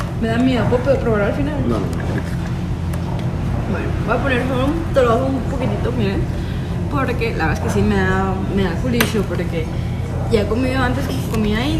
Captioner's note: laugh